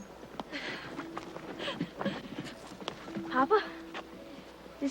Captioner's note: Mandy laughs